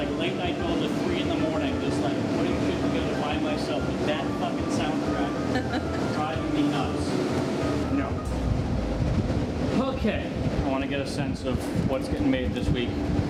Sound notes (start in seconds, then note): 5.5 laughs; 7.6 powering down